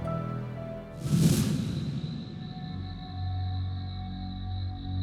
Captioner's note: crickets chirping